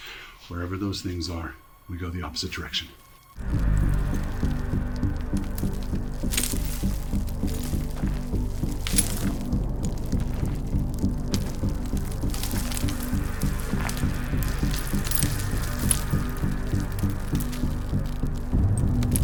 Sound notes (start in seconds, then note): 3.1 footsteps crunching; 3.1 tense music